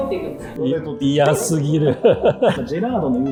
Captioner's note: laughing